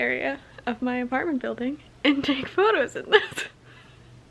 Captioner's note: laughs